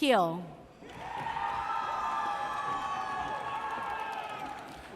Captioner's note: audience cheers